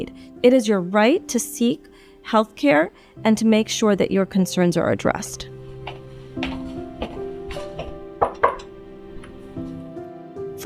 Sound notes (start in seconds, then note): 5.7 gentle piano music; 5.7 footsteps; 8.1 knocking on door